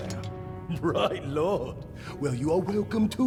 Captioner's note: laughing